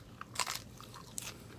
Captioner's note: crunch